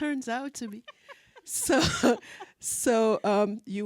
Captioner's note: laughing